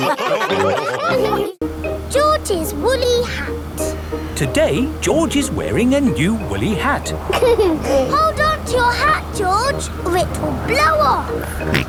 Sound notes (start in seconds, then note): 0.0 all laughing; 7.0 giggles